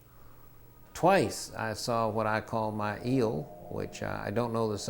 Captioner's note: machine whirring